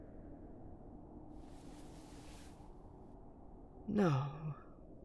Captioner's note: rustling